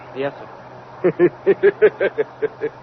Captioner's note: laughs